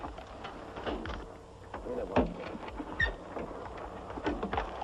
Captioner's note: door hinge squeaks